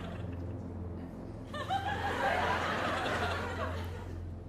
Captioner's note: laughter